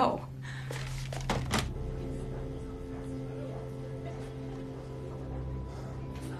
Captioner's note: dial tone droning